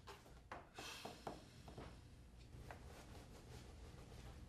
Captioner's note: sighing